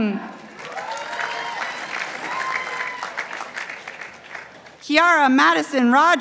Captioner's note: participants applauding